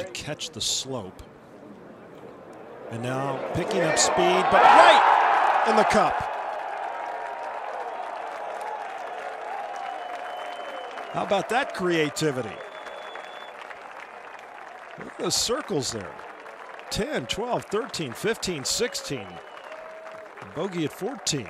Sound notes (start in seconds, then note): 8.6 cheers and applause